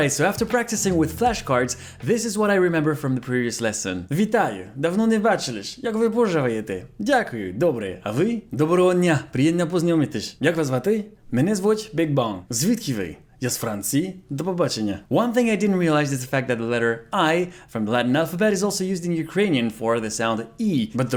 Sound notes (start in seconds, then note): 4.1 speaks in Ukrainian